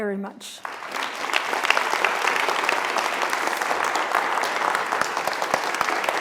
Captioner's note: applause